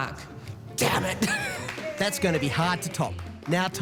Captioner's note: laughing